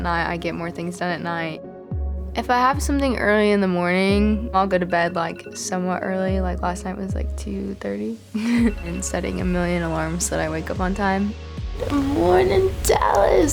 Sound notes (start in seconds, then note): 8.4 chuckles; 8.5 alarm chiming